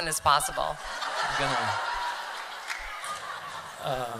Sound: laughter

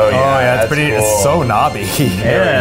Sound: laughs

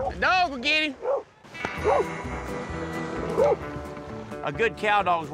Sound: dog barking

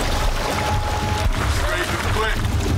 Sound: water splashing

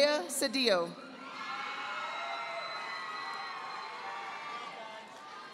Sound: audience applauding

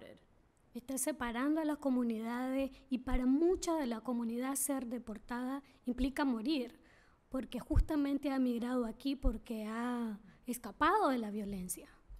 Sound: speaking spanish

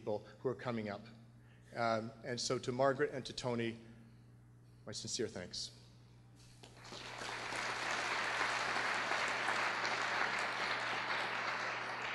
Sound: applause

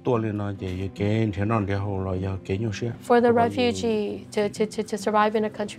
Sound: speaking in Hmong

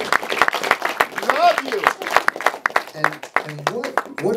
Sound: shouting

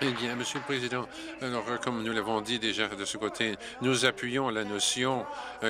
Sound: applause

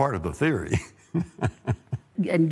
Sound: laughter

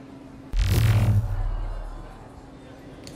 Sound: sci fi woosh

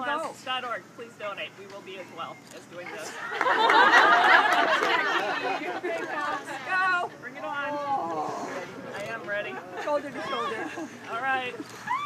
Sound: laughing

